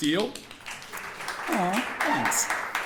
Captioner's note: audience applauding